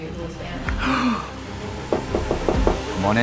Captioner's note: knocks